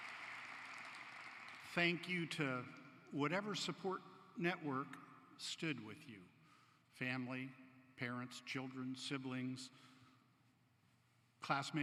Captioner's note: applause